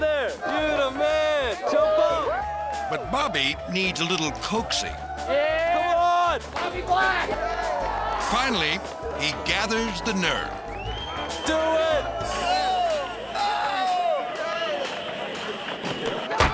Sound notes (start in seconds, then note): 2.8 skaters cheering; 13.2 skaters shouting; 16.0 thuds